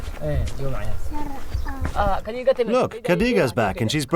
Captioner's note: speaks in foreign language